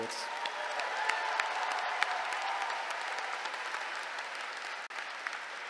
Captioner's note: applause